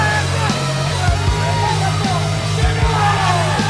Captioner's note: man shouting; woman shouting; crowd cheering